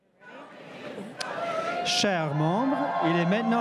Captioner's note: crowd chatting